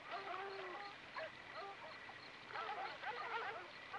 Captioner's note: dogs barking